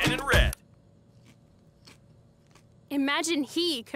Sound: music stops

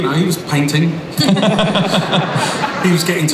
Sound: Chris laughs

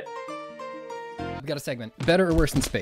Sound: happy music; pat

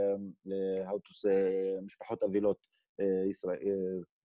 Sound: foreign language 00:06:31

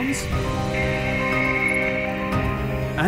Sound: crackling

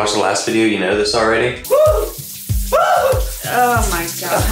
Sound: excited noises

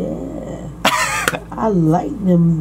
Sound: laughs

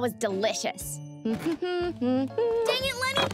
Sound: humming

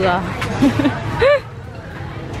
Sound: laugh

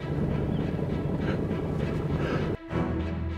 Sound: searcher chuckles; suspenseful music continues

